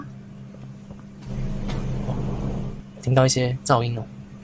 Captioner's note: Distant 1006 Knock